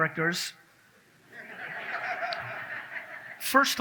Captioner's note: audience laughs